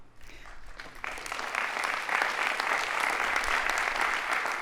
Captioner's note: audience applauding